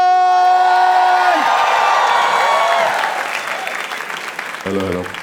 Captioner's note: crowd applauding